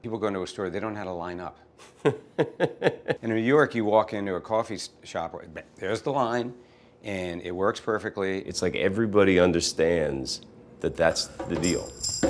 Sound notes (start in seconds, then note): 1.8 Kevin laughing; 11.1 drums